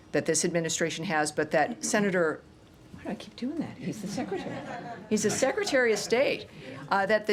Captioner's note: laughter